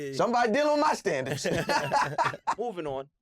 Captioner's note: laughs